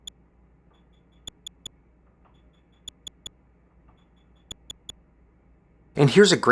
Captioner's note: soft, high-pitched clicks